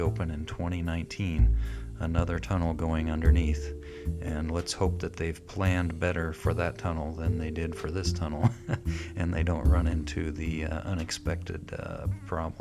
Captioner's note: chuckling